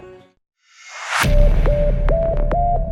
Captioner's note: dramatic riser and impact